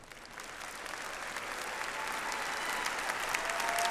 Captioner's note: audience applauds